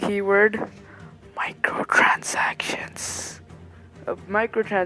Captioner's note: whispers into mic